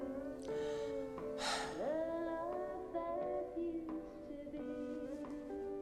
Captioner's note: sighs